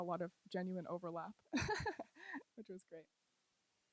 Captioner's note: laughs